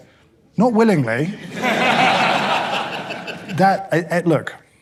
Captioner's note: audience laughing